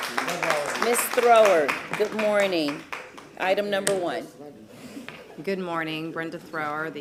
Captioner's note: applause